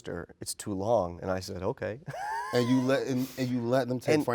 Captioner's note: chuckles